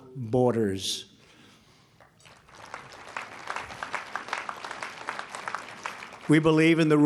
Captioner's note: applause